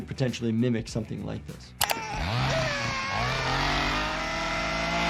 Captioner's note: chainsaw buzzing